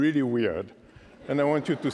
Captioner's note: laughter